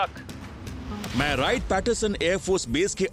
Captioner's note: narrating